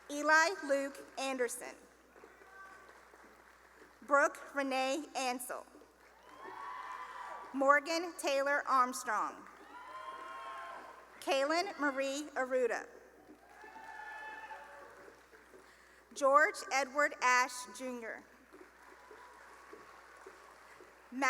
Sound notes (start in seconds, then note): 2.2 cheering and applause; 6.0 cheering and applause; 9.5 cheering; 13.4 cheering; 18.5 cheering and applause